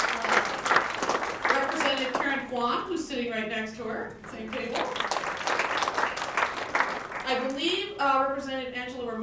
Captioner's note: applause